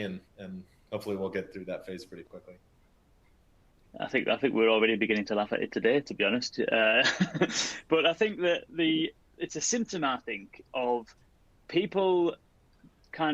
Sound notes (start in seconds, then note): 6.8 laughs